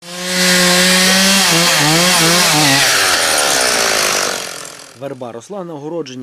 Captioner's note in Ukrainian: Працює бензопила